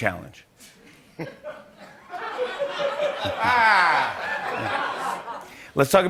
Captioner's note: laughter